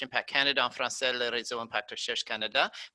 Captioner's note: speaking in foreign language